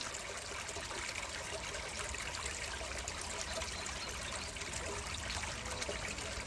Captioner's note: sounds of a creek and running water